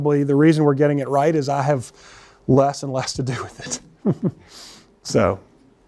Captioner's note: laughs